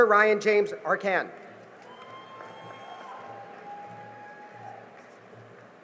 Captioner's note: cheering and applause